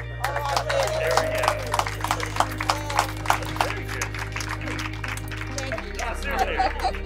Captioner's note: applause